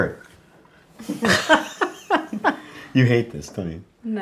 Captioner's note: laughing